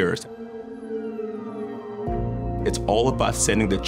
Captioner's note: siren wailing in distance